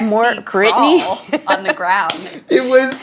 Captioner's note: laughing